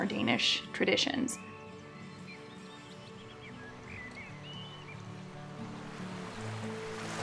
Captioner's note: gentle music; birds chirping